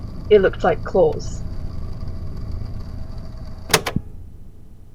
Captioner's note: click